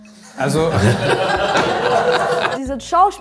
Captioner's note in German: Gelächter